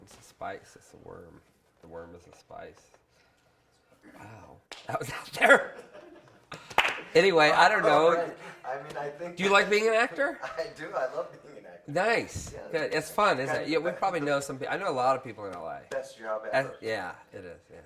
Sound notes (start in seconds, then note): 5.5 crowd laughs